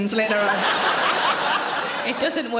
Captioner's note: audience laughing